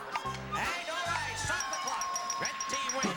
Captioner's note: bell dinging